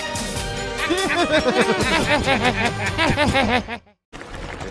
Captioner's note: laughing